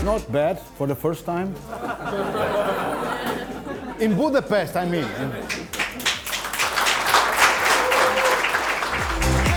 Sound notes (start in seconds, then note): 1.7 laugh; 5.4 applause